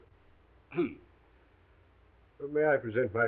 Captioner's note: Watson coughs